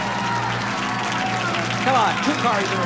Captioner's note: applause